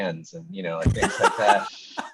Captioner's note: laughing